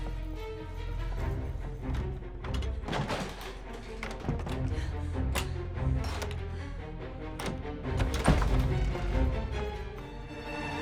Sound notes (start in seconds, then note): 5.4 locks clack